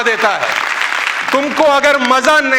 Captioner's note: rounds of applause